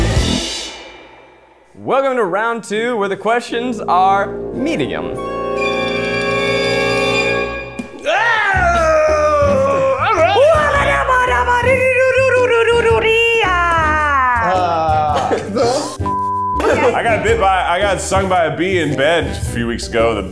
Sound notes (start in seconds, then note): 7.7 shouting gibberish; 8.0 yelling; 14.6 shouts nonchalantly; 16.0 beep